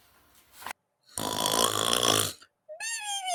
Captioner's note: snoring